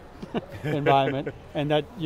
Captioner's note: host laughing